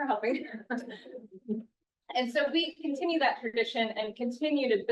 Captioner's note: laughs